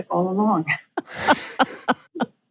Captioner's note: laughs